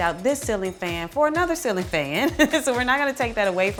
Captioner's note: laughs